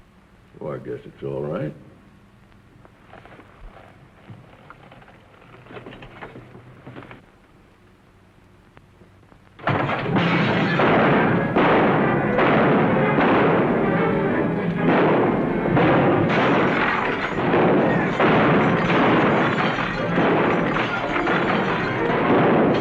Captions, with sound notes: I guess it's all right. [ CRASH ] [ GUNSHOTS - TENSE MUSIC ] [ GLASS SHATTERING - GUNSHOTS ]